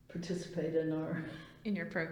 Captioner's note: laughs